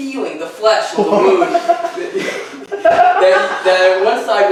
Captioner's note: audience laughing